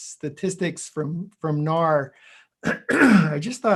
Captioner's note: clears throat